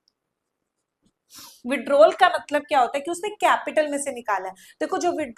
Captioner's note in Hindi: नाक से की जाने वाली आवाज़